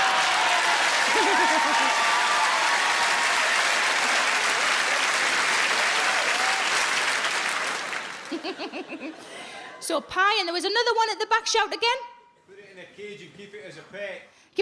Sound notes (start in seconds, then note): 0.0 audience laughs; 0.3 audience applauds; 8.3 Sarah giggles